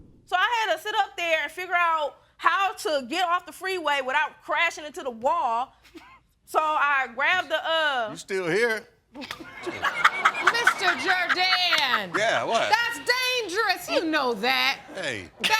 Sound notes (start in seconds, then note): 9.4 all laughing